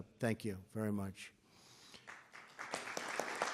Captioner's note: applause